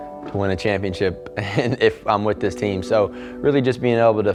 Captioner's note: chuckles